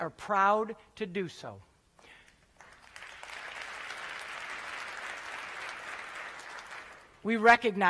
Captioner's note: applause